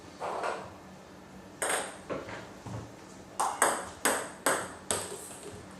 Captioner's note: balls ping pong hitting continues